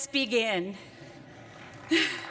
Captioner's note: laughter